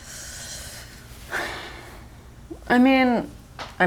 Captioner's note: sighs